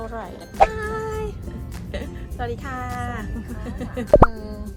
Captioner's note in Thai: หัวเราะ